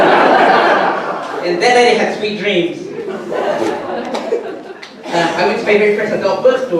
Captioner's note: audience laughter; audience laughter